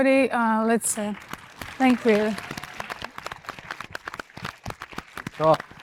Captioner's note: audience applauds